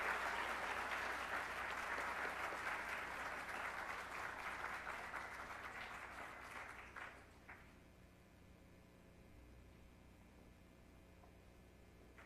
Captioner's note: applause